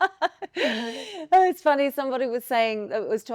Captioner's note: laughs